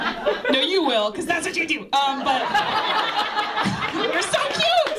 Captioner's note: laughter